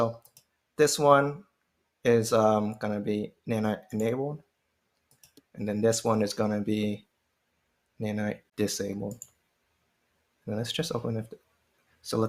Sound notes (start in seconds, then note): none